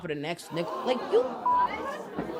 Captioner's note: beep